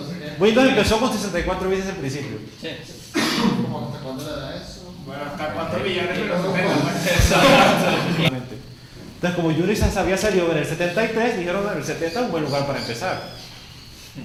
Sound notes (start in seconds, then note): 3.1 achoo!; 6.2 class laughs